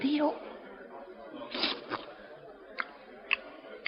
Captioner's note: slurps